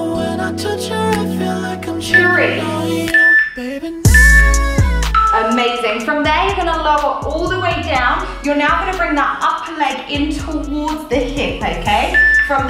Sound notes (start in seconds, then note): 3.1 timer beeping